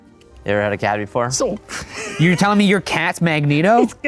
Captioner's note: laughs